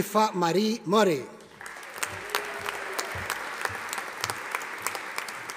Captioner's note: audience applauding